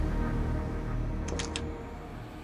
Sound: door opens

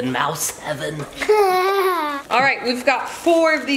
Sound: laughing

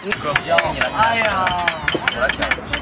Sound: complaining

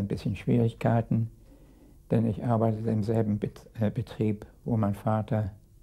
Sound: speaking in a foreign language

